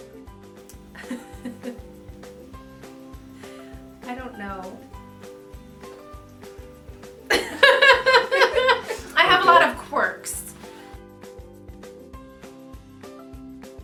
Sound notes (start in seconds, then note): 1.0 laughs; 7.3 laughs